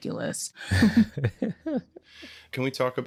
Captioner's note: chuckling